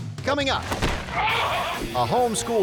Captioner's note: man yelling